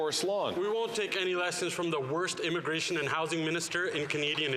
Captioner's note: some Applause